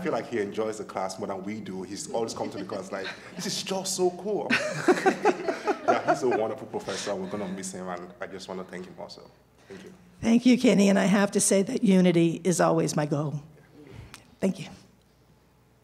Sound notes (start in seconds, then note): 7.5 laughter